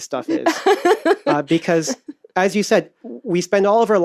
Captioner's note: laughs